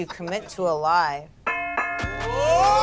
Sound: bell ringing; group yelling

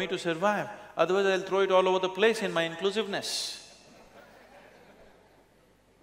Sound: laughter

